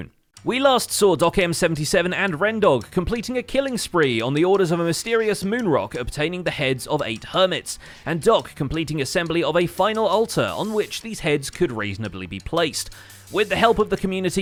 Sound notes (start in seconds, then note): none